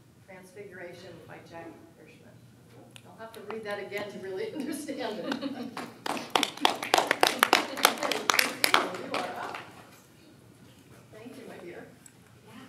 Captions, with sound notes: "Transfiguration" by Jack Hirschman. I'll have to read that again to really understand it. (applause) Christina, you are up. Thank you my dear.